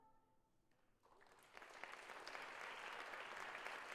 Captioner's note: applause